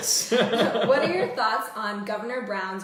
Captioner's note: laughter